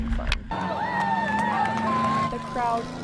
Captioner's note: crowd cheering